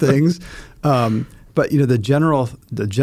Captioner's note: both laughing